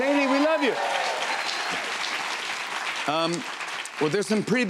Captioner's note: cheers and applause